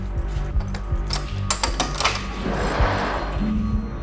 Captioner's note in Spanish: Sonido al abrir la puerta